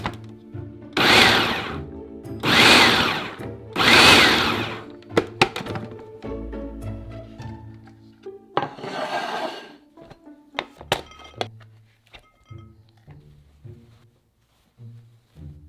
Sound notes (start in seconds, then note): 1.0 processor pulsing